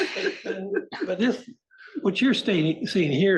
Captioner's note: laugh